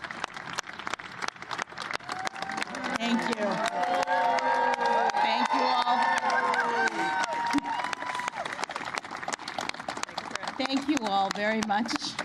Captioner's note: applause